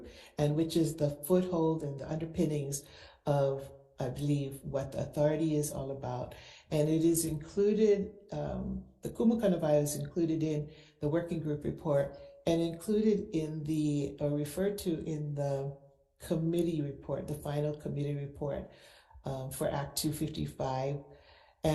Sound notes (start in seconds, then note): 8.5 speak foreign language